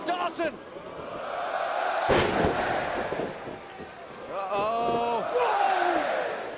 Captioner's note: crowd cheering